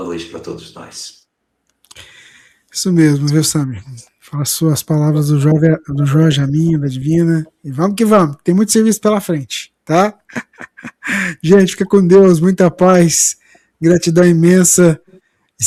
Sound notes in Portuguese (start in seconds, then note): 10.2 risadas